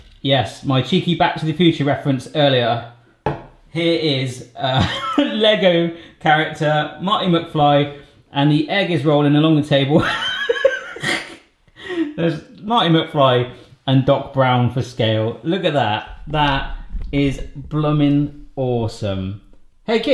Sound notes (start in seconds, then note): 10.1 laughs